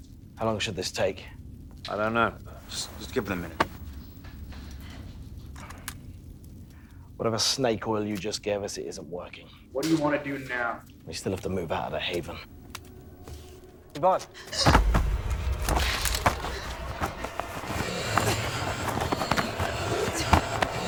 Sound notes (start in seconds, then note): 14.2 Yvonne gasps; 18.0 loud grunting